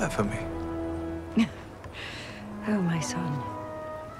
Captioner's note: chuckles